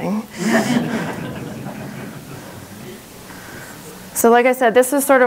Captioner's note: audience laughing